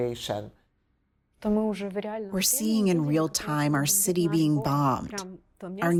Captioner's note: through translator